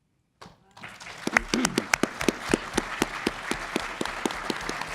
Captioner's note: audience applauds